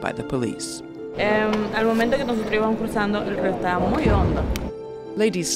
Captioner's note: lady speaking Spanish